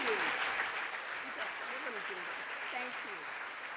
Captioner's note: audience applauding